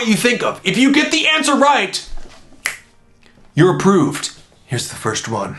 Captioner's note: snaps